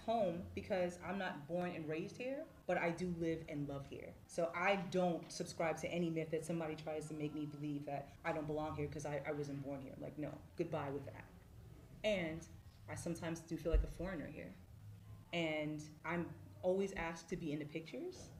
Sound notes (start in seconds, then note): none